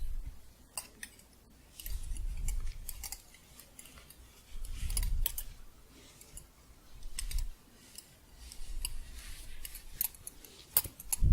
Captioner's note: gentle jingling